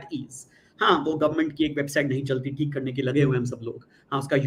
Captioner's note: non-english speech